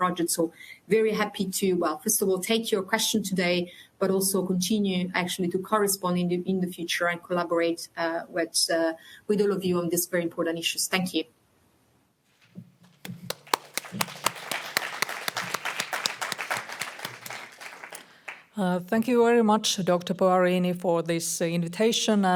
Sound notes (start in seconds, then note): 13.0 audience applauding